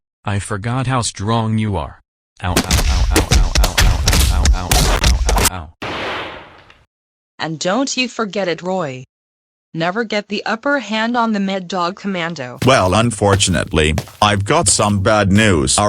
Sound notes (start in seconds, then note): 5.9 thud